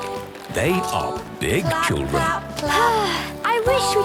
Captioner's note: Belinda sighing